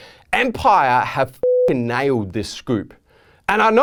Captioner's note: beeping